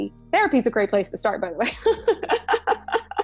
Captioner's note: laughing